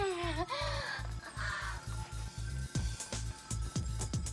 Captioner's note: gasping